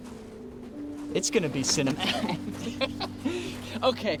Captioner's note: laughs